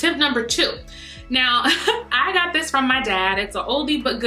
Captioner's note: light instrumental music; laughs